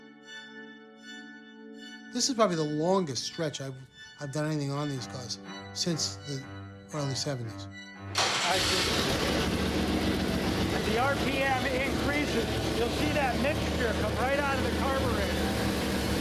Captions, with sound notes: - This is probably the longest stretch I've done anything on these cars. Since the early 70's. (engine starts) - The RPM increases you'll see that mixture come right out of the carburetor.